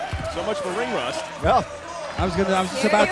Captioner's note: bell ringing